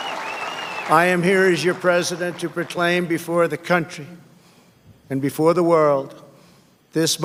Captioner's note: applause